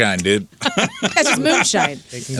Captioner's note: laughter